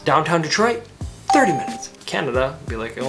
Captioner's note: graphics ding